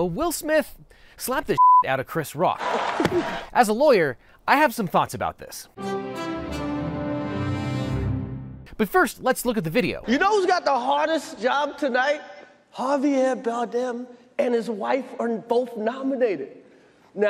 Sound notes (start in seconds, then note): 1.6 beep; 2.9 hand smacks; 5.8 dramatic music